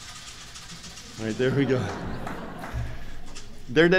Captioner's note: rattling